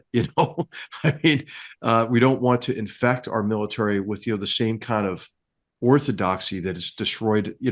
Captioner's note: laugh